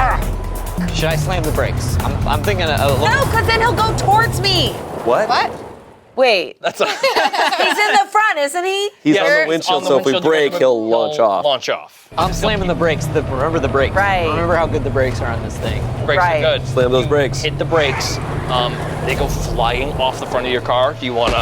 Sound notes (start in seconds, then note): 0.1 beep; 6.6 group laughs